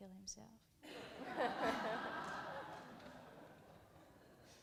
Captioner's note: audience laughs